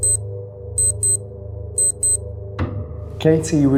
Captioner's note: beeping